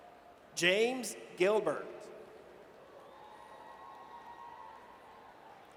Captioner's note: audience cheers